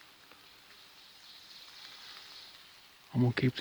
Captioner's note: bird chirping